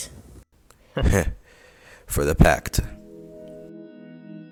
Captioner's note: laugh